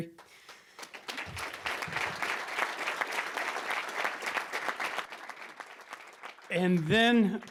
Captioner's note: applause